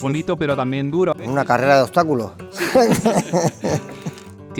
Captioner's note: laughs